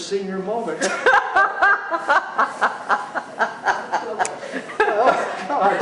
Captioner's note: laughter